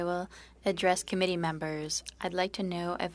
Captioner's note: speaking French